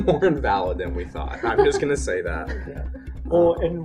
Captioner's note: laugher